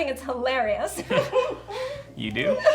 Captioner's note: Diana and Jack laugh